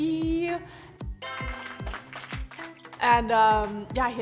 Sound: applauding

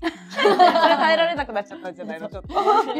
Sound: laughs

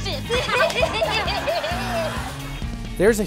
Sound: laughing

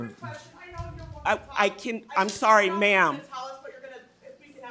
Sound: speaks faintly

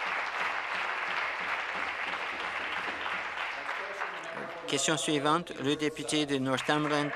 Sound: applause

